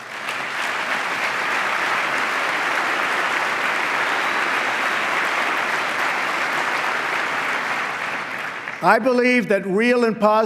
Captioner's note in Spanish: aplauso